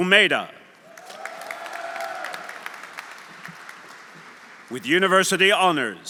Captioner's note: audience cheering; audience applauding